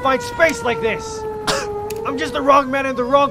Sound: cough

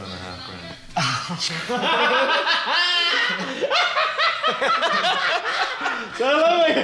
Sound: maniacal laughter

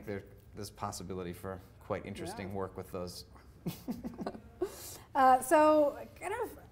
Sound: laughing

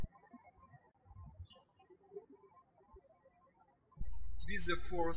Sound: birds chirping

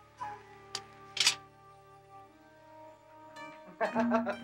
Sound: katana clicking; laughs

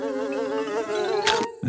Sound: buzzing; chomps

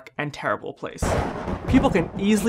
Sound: thunder and lightning

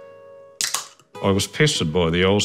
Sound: tab top clicks

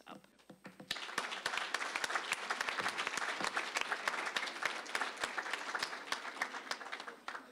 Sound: applause

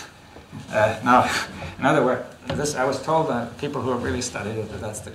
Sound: laughs

